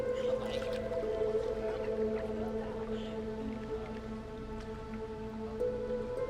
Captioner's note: Nadia laughs; French and Nadia chatter; soft, gentle music